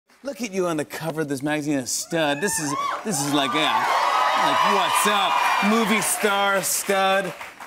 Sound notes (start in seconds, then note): 2.1 cheers and applause